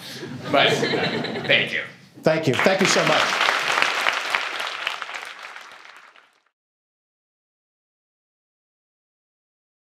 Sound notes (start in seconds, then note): 0.3 laughter; 2.4 applause